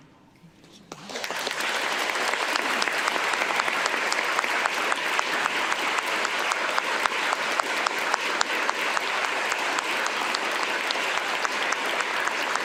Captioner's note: applause